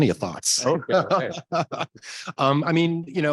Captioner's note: laughs